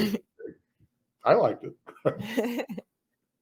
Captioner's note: both laugh